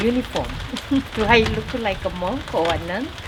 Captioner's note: laughs